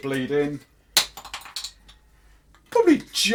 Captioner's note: cap clatters